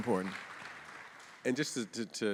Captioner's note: audience applauding